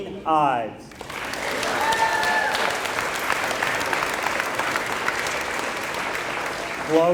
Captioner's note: applause